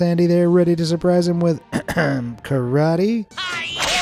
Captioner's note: ahem